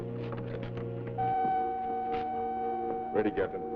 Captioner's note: steady beep